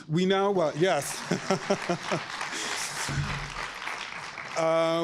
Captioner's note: audience applauds